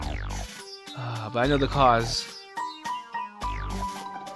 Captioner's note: sigh